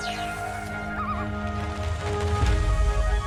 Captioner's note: loon calls